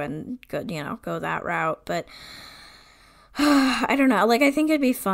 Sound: sighs

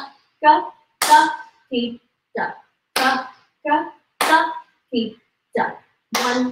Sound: claps and counts in foreign language

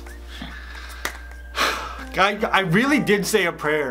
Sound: sighs

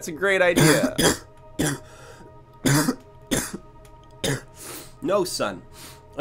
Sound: coughing

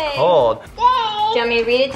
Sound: vocalizing

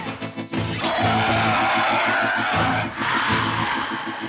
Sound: roaring

